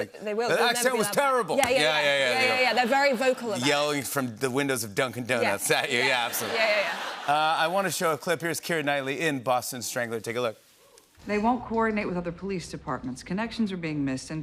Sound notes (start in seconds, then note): 6.0 laughter